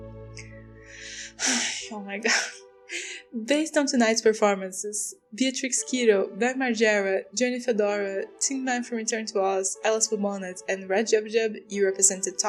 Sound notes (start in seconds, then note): 0.9 sigh